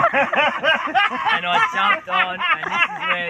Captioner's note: much laughter